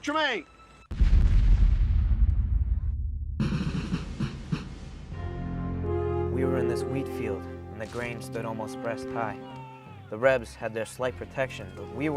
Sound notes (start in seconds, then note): 0.9 cannon fire and drums; 6.5 voiceover